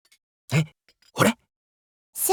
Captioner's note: whisper